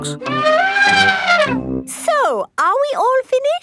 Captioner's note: trumpeting